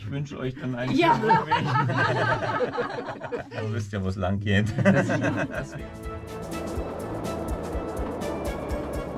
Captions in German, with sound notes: Ich wünsche euch dann einen schönen Rückweg. *Alle lachen.* Ihr wisst ja, wo es langgeht.